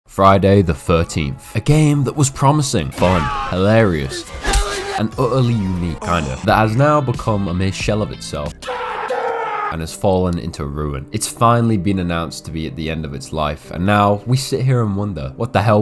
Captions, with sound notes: Friday the 13th. A game that was promising, fun, hilarious and utterly unique... Kind of. That has now become a mere shell of itself (funny man scream) and has fallen into ruin. It's finally been announced to be at the end of its life and now we sit here and wonder, what the hell